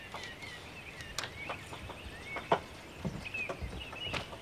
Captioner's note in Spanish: pájaros trinando